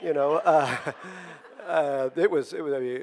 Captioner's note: audience laughing